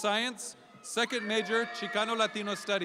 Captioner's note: audience applauding